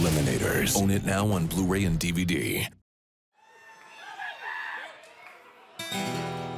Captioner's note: crowd cheering